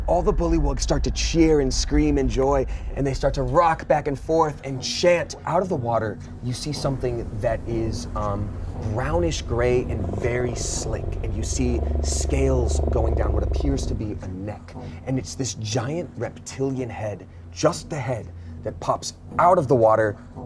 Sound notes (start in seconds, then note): none